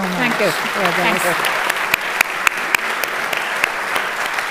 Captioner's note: applause